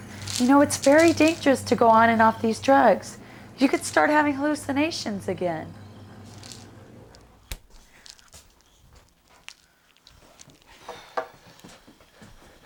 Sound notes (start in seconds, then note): 6.0 ominous music fades; 6.2 pills rattling